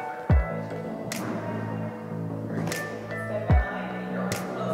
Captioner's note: foot scraping